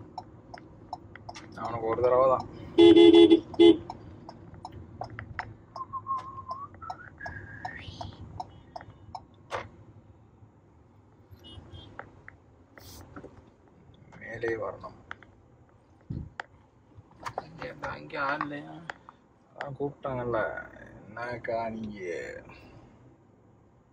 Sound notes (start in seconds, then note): 5.8 Whistling